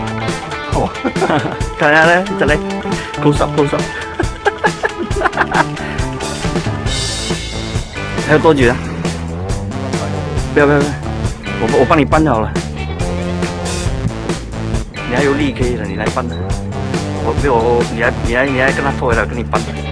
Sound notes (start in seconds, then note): 0.7 laughing; 3.8 laughing